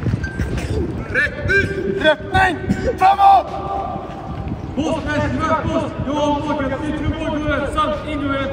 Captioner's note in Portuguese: homens falando alto em outro idioma